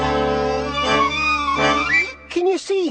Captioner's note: buzzing